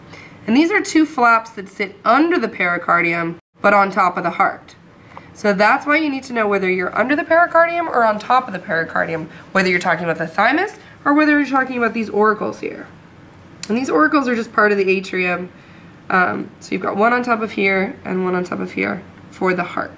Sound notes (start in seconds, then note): none